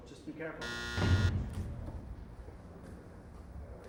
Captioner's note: buzzer